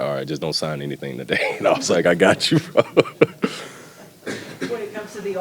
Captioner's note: laughing